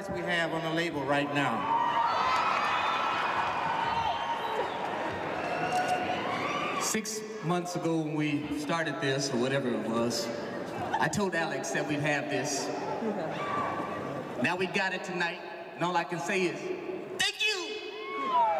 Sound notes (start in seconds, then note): 2.5 audience cheering; 18.4 audience applauding